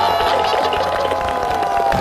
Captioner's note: haha